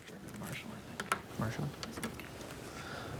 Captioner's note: whispers